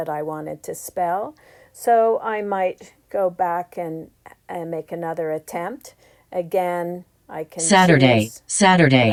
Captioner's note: iPad speaks